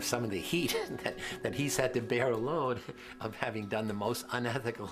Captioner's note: laughs